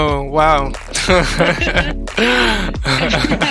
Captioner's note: both laughing